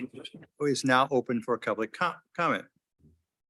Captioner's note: audio warps